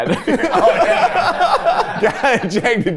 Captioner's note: everyone laughs